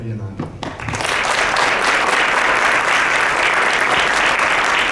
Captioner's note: audience claps